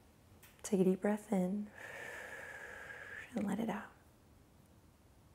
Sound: exhales

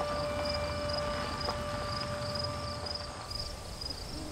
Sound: bird and insect sounds

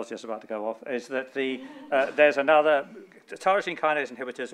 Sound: people laughing

